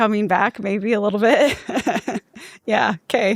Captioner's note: laughs loudly